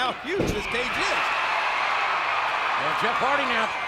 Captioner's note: audience cheering